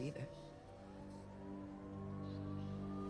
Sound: SIRENS WAlLlNG IN DISTANCE

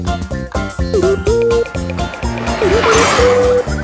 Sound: car engine revving

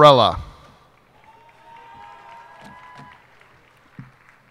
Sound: cheers and applause

